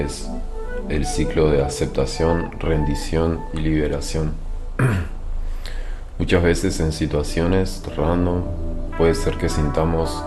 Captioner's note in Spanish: carraspeo